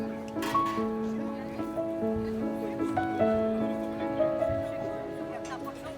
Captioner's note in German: undeutliches Gerede